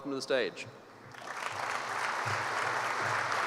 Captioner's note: applause